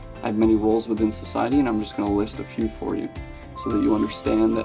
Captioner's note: Arabic